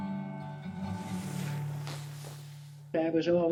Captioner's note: folk music, birds chirping; skis hitting snow